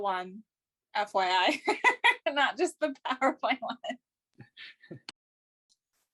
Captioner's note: laughing